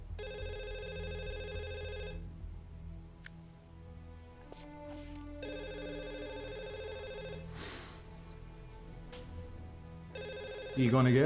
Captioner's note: phone rings; scottish accent